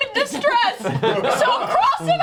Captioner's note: all laugh